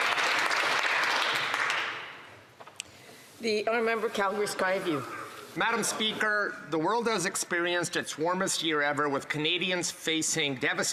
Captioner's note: some Applause